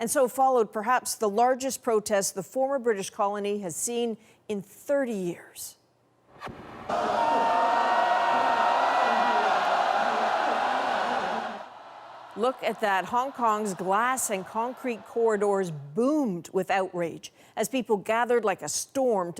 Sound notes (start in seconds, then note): 8.9 chants